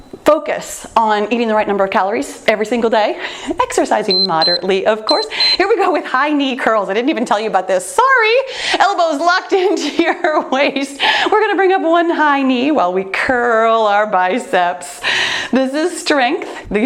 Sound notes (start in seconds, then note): 5.0 timer beeps; 10.7 laughs